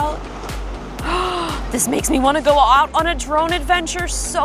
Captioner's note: gasps